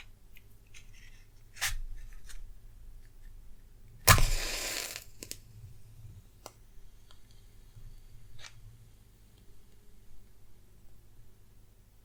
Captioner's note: candle lighting